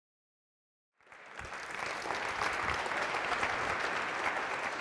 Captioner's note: applause